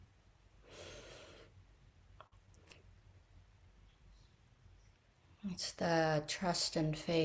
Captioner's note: breathes deeply and pauses